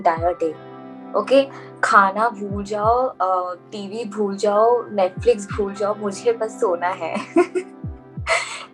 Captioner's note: laughs